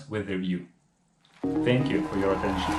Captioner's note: cheers, applause